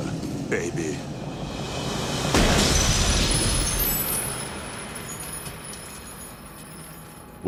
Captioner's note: gun firing; glass shattering